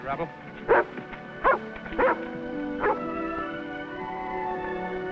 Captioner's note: Rebel barking; whimsical orchestral music